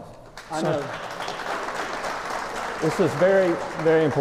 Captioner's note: applause